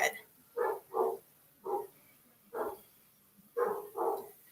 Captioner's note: dog barking